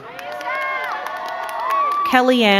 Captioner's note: crowd cheering and clapping